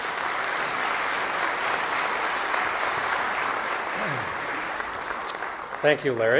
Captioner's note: applause